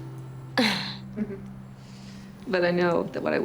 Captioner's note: both chuckle